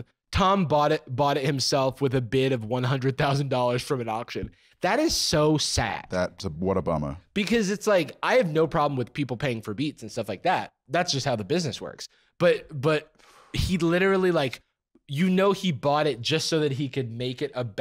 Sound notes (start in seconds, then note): none